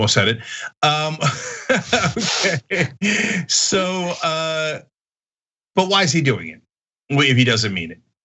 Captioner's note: laugh